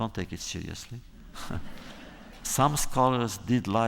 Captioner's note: laughter